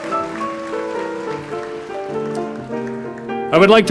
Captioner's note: applause